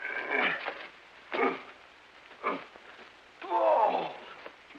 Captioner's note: Shemp grunting